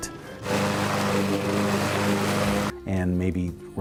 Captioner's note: mower roars